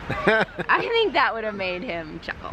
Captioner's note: laughs